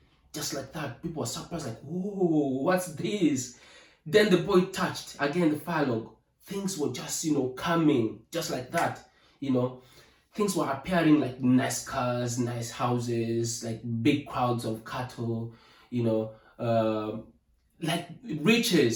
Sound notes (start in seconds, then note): 8.7 snap